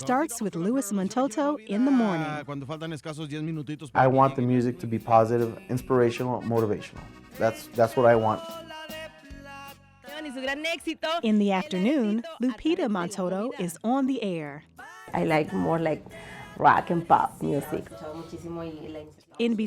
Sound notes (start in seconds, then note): 2.6 speaking Spanish; 9.2 speaking Spanish